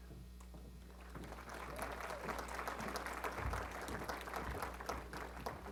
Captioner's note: applause